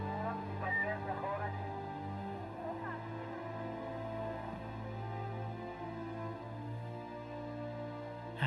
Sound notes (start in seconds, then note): 0.1 people murmuring; 0.9 dramatic music